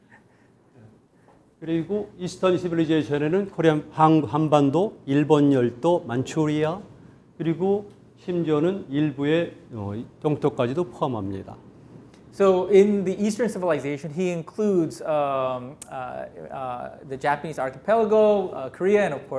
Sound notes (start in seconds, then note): 1.8 speaking in Korean